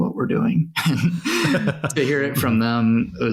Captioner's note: all laughing